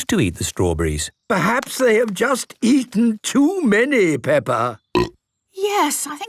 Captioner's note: burp